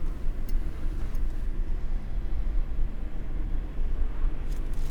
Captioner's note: car engine revving